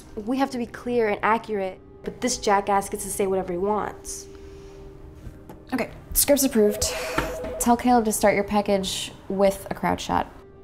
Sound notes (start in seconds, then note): none